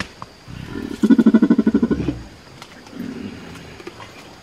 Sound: mating Call

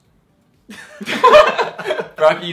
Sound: laughing

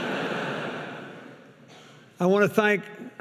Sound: audience laughing

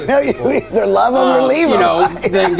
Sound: chuckles

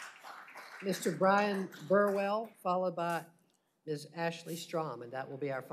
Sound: applause

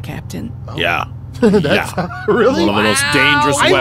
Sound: laughs

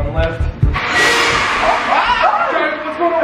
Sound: loud crash; worried yells

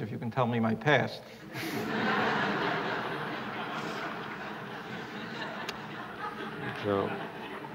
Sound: laughter

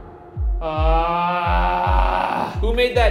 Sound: groaning

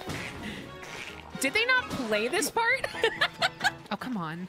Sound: laughter

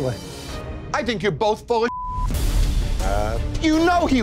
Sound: beeping

